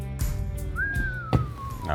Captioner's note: whistles